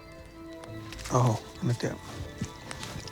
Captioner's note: speaks native language